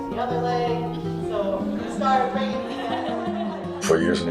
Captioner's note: participant laughs